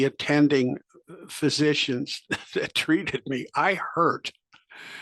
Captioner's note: laugh